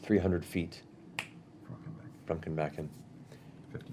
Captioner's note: snaps fingers